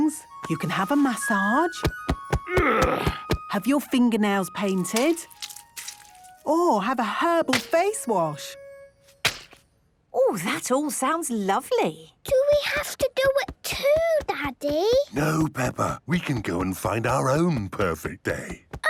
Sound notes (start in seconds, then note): 1.8 thumping; 2.4 moaning